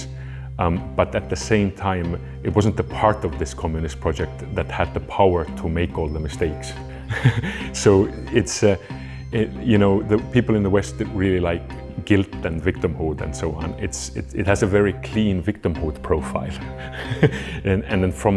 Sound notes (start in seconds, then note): 7.0 chuckles